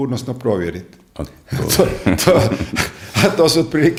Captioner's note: laughter